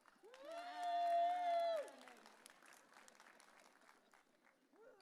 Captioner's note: audience cheering